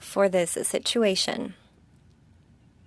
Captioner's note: speaking French